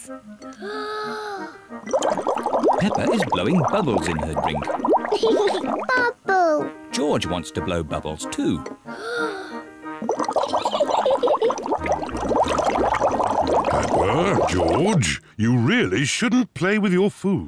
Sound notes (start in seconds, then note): 0.5 takes big breath; 4.5 laughs; 8.9 takes big breath; 10.5 giggles